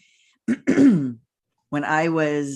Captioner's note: clears throat